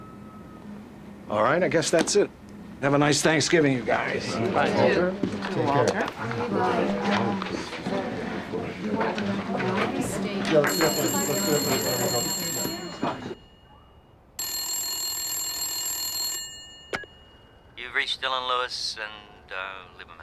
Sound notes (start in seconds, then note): 10.5 telephone ringing